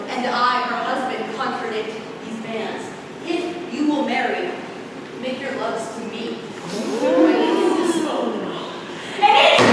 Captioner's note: crowd oohing